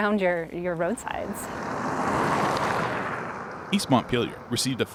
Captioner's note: car wheels rumbling